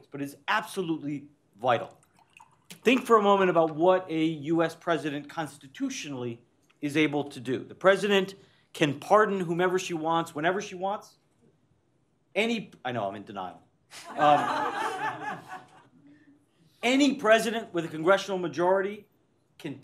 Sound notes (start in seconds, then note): 13.9 laughter